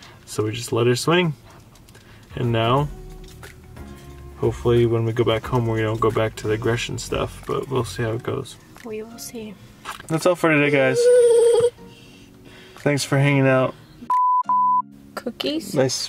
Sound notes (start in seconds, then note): 14.1 electronic beeping